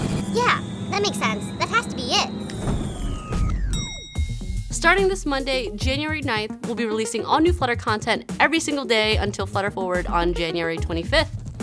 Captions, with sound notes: Yeah, that makes sense. That has to be it. [whoosh] [ding] Starting this Monday, January 9th, we'll be releasing all new Flutter content every single day until Flutter Forward on January 25th.